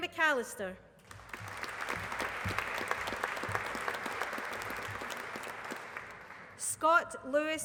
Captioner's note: applause